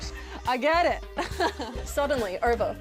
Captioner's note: laughs